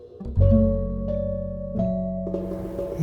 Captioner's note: soundbite of archived recording